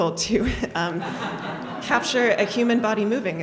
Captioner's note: audience laughs